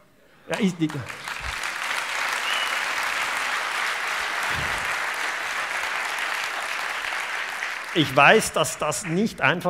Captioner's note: applause